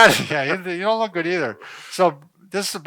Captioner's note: laughs